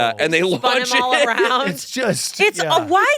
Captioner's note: laughs